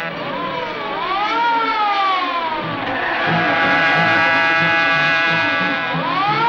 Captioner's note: suspenseful music; siren wailing; car engine buzzing